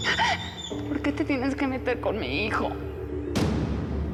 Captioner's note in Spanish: sollozos; sollozos